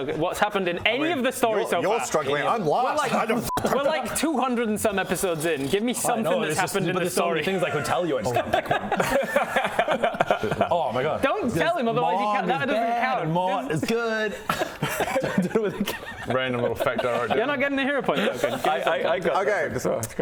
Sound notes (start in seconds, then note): 7.7 sounds legit laughter